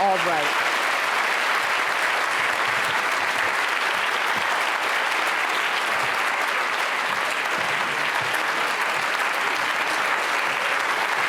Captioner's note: applause